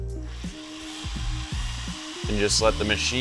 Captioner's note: drill humming